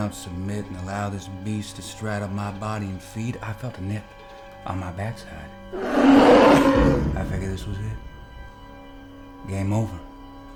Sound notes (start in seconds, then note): 5.7 wolf growling